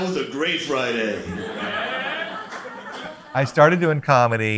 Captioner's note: crowd laughs